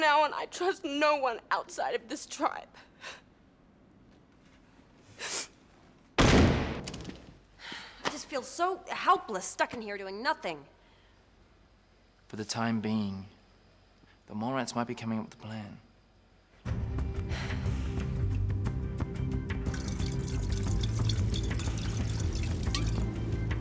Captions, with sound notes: From now on I trust no one outside of this tribe. (sobs) (Trudy sniffs) (door slams) - I just feel so helpless stuck in here doing nothing. - For the time being Morants might be coming up with a plan. (Amber sighs) (gentle music) (liquid splashing)